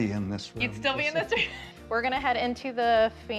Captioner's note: laughing